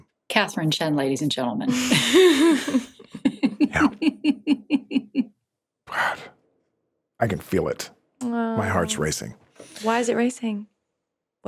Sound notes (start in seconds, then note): 1.7 everyone laughs